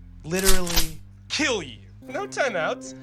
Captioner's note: shotgun reload